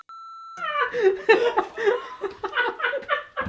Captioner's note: laughter